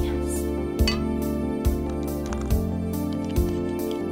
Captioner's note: bottles clink